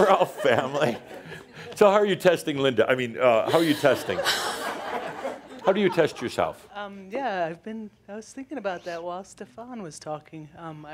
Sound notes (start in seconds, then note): 0.0 chuckles; 3.5 more laughter